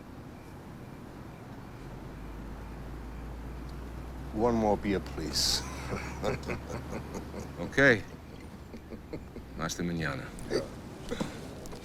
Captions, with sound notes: - One more beer, please. (group laughs) - Okay, hasta manana. - Yeah.